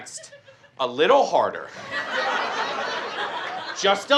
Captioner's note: audience laughs